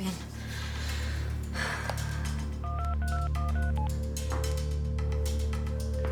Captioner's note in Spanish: exhala; sonido al marcar